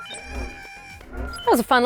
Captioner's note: beeping